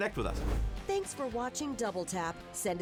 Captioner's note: air whooshes